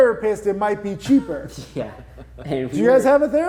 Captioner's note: laughing